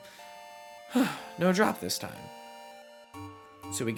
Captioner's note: dissapointed sigh